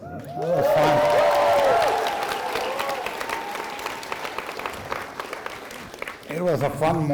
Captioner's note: applause